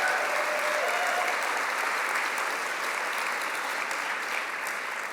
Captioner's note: applause